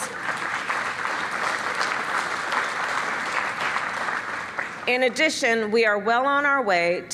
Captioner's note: applause